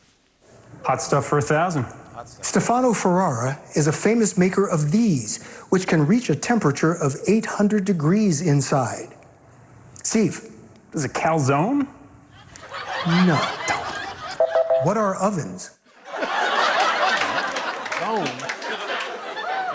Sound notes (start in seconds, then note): 12.3 laughter; 14.4 beep beep beep; 15.9 laughter